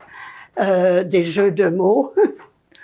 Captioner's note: laughing